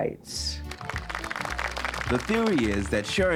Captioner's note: applause